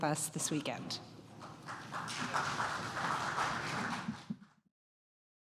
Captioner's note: applause